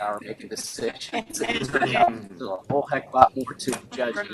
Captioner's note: laughter